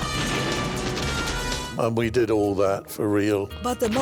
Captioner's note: gunfire; explosions